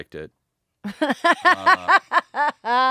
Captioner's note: laughing